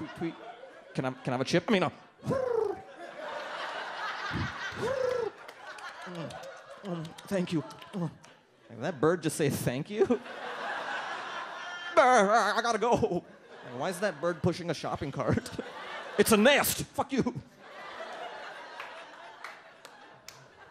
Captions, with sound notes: "Tweet, tweet. "Can I, can I have a chip?" (pigeon cooing sounds) (audience laughs) (pigeon cooing sounds) (noshing) "Thank you" "Dhat bird just says, thank you?" (audience laughs) "Ah, I gotta go." "Why is that bird pushing a shopping cart?" "It's a nest. Fuck you." (audience laughs)